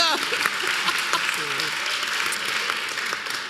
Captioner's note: applause